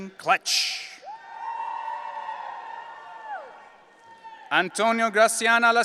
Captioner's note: audience cheering